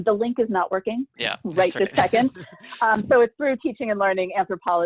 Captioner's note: laughter